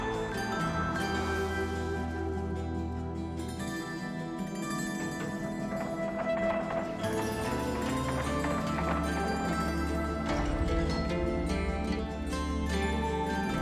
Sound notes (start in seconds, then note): 9.5 door clanks